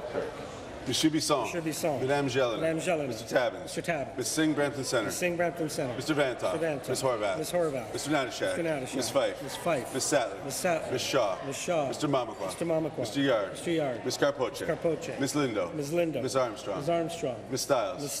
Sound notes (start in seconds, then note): none